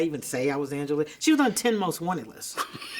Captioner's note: interviewer laughs